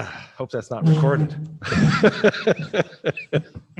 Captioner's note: laughs